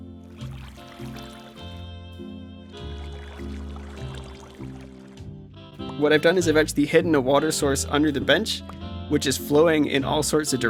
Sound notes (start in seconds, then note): 0.6 gentle waves